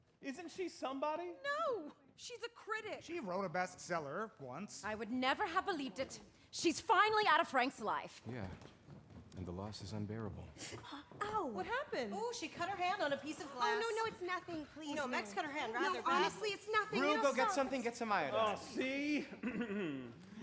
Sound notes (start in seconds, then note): 10.7 winces; 19.4 clears throat